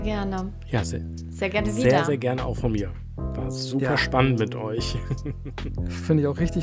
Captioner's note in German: gelächter